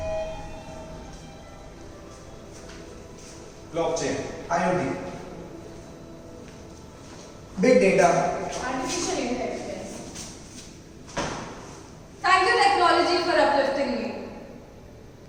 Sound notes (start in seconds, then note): 0.0 lift door opens